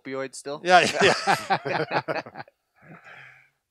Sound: laughing

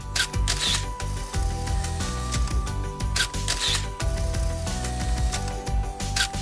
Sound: camera shutter clicking

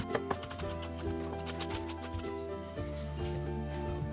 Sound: knife chopping

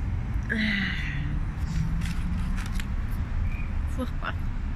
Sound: background noise & sniffling

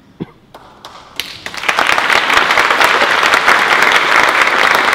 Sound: applause

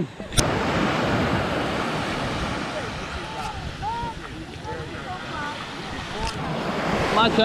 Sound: sound of waves

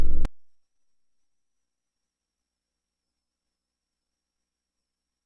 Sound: silence

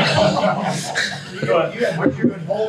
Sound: everyone laughs

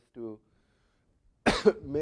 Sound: cough

